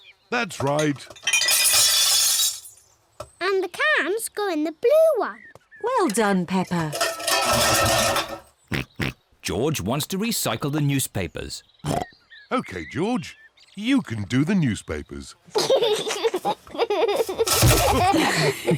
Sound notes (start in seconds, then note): 0.6 bottles clink; 6.8 cans clatter; 8.7 snorts; 11.8 snorts; 15.5 giggles